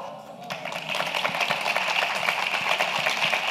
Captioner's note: applause